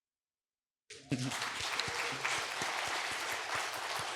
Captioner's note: cheering, applause